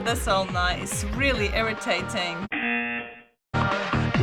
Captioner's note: buzzer